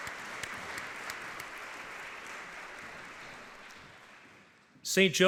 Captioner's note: audience clapping